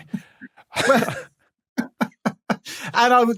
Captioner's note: chuckles